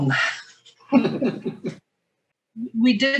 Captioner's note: muted chuckling